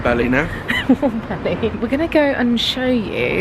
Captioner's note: chuckling